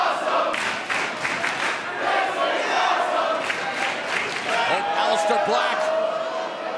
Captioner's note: fans chanting